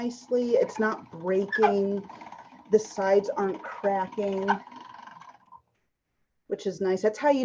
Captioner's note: machine creaking